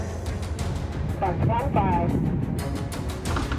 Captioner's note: voice on radio